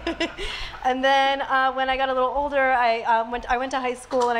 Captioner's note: laughs